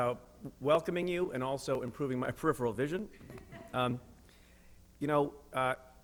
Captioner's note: chuckle